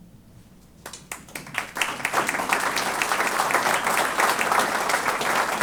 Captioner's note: applause